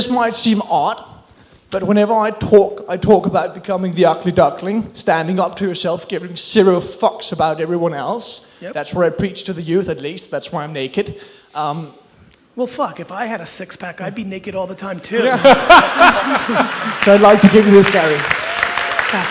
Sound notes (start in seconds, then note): 15.2 laughs